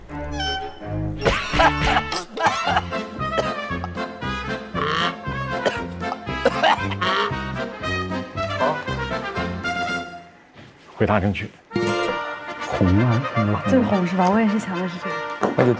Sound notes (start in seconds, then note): 1.2 cough!; 6.3 cough